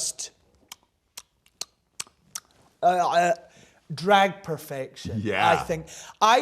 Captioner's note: lips smacking